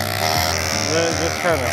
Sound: drilling sounds

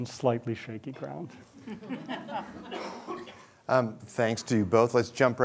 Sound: chuckles

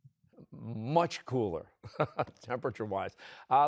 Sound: laughs

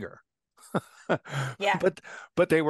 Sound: laugh

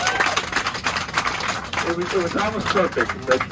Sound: audience applause

